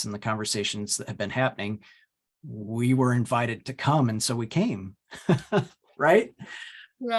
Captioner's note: laughs